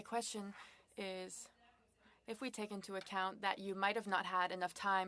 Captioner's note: speaking French